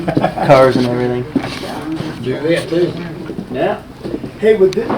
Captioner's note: man laughs